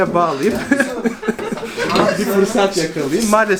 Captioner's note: laughter